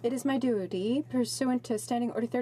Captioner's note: speaking French